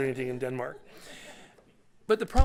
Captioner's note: laughter